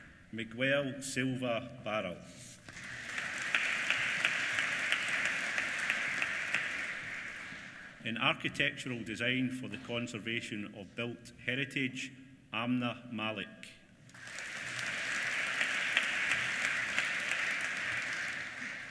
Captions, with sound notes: Miguel Silva Barral. (APPLAUSE) In Architectural Design for the Conservation of Built Heritage, Amna Malik. (APPLAUSE)